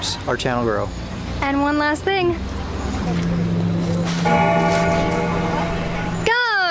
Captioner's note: bell rings